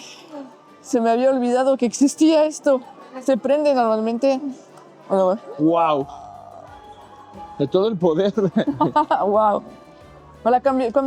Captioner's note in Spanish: risas